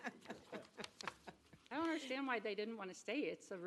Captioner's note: laughter